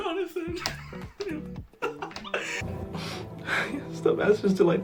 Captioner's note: chuckling